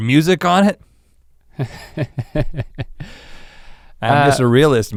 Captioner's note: Link chuckles